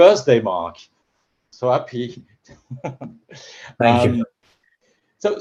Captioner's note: laughter